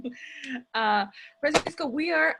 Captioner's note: chuckles